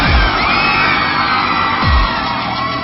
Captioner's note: people screaming